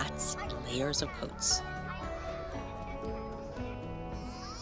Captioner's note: kids clamoring